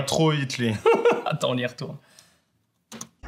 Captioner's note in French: Rires